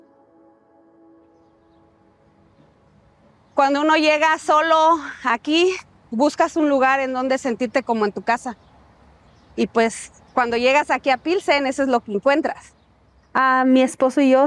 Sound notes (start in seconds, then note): 3.5 speaking Spanish